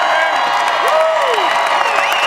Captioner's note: crowd cheering